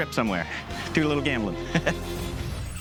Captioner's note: chuckles